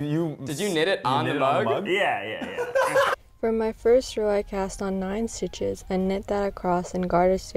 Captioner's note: laughing